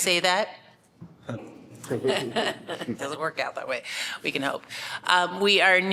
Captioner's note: laughter